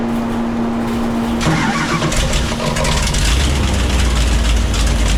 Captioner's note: engine rumbling